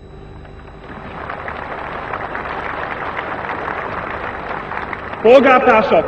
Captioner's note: applause